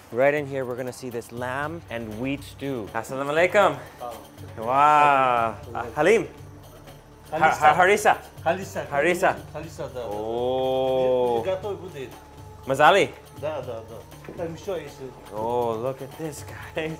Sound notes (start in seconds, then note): 10.3 in foreign language